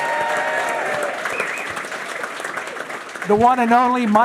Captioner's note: audience cheering; audience applauding